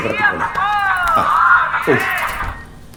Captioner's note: mobile ringing